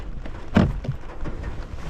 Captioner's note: door opens